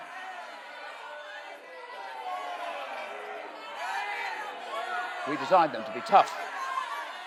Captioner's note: crowd booing and shouting